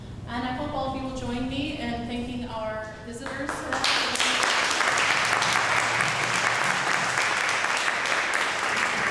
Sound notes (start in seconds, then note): 3.2 applauding